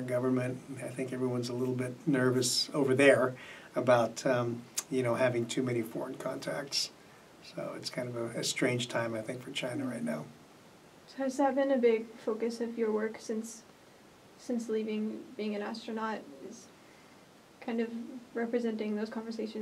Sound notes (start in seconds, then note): none